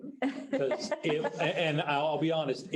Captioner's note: woman laughing